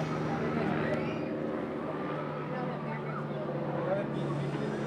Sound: airplane engine whirring

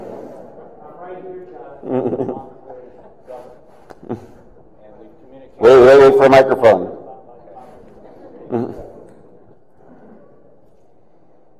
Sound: laughter

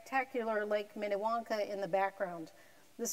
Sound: none

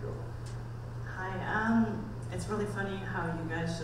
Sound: voiceover

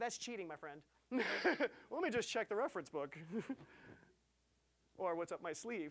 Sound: laughing

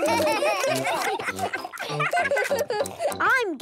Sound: giggling, chewing

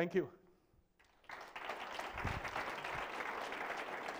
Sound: applause

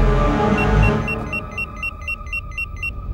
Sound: intense music; beeping

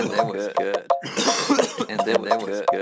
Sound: cough

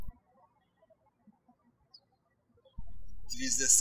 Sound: birds chirping

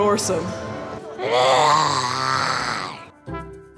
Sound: roars

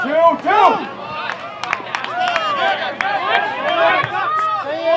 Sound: applause

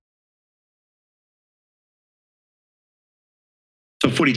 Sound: silence

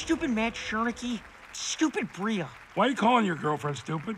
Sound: applause in background

